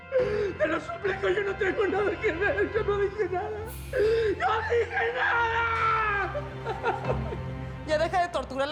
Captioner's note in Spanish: llanto